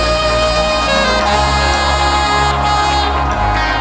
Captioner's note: crowd cheers